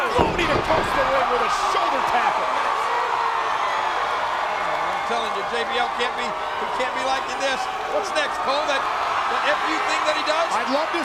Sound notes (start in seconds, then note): 2.3 crowd cheering